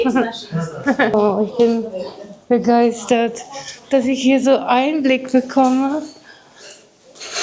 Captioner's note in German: schnauben